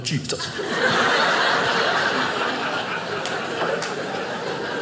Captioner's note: audience laughing